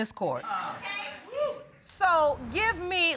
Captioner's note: audience exclaims